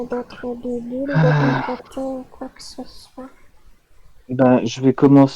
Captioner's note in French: Soupir du fond des Âges de Malvic